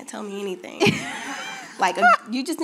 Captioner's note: laughing